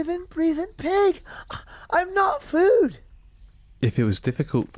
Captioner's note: scoffs